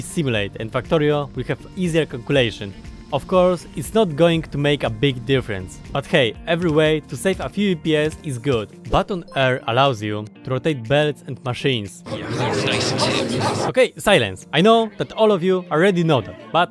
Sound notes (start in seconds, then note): 12.0 angry crowd